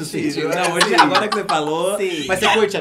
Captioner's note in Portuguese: Blogueirinha ri